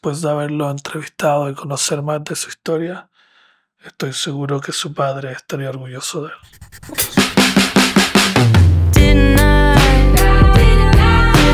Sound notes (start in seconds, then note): 4.0 narrator continues to speak Spanish; 6.6 upbeat music